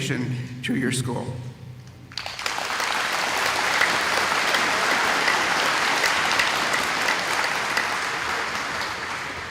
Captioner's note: applause